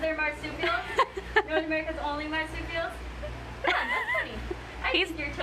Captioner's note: laughs; laughs